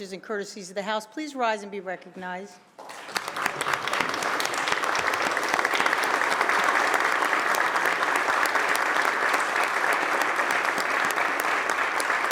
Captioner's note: applause